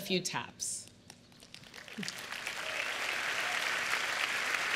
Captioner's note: cheers and applause